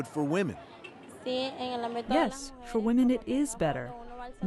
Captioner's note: through translator